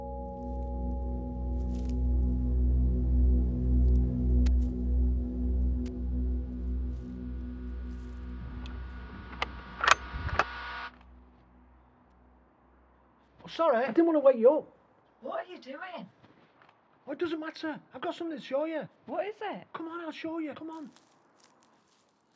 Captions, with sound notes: (ominous music) (rifle clicking) - Oh, sorry, I didn't wanna wake you up. - What are you doing? - What does it matter? I've got something to show ya. - What is it? - Come on, I'll show ya, come on.